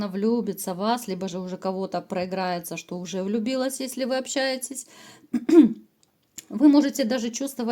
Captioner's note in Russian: откашливается